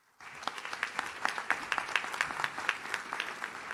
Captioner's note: audience claps